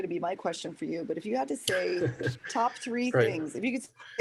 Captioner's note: laughter